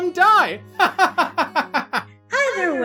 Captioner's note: manic yet banal laughter